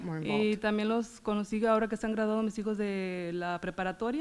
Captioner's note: foreign language